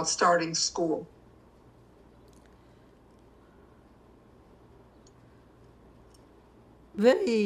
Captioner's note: pauses 6 seconds